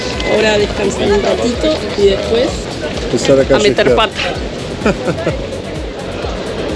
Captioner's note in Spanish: risas